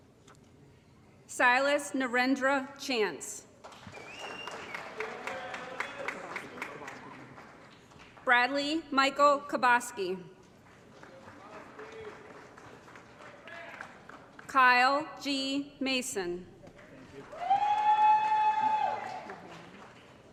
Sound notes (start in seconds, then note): 5.2 applause & Cheering; 10.5 applause; 16.8 applause & Cheering